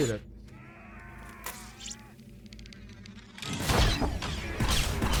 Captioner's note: gunshots